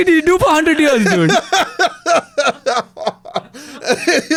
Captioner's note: laughs